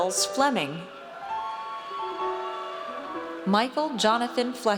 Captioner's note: audience cheers